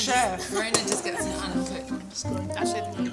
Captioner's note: people chattering; cheerful Italian music